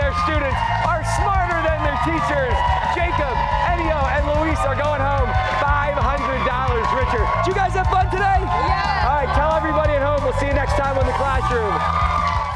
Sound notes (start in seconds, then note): 3.0 cheers and applause